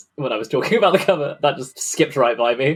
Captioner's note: laughing